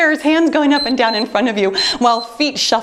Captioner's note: timer beeps